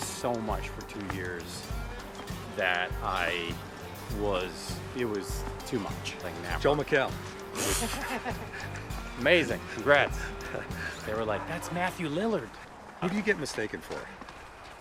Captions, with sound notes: so much for two years that it was too much. - Joel McHale! (laughs) (Joel blows raspberry) - Amazing, congrats. They were like, "That's Matthew Lillard!" - Who do you get mistaken for?